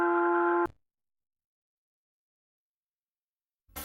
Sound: silence

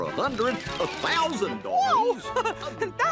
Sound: laughs

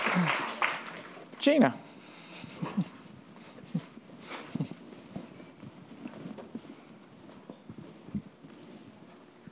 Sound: applause

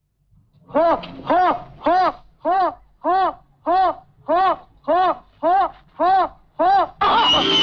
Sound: cheering

